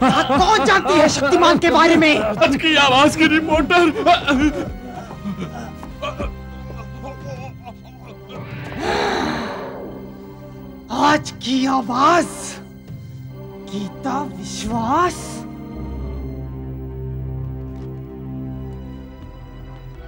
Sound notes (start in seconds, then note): 8.0 grunts